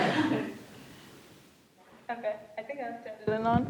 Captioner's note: laughter